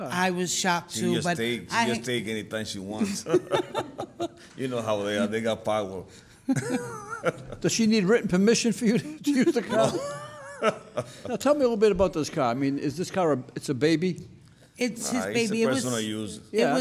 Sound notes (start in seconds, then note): 3.0 laughing